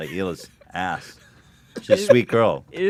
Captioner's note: laughs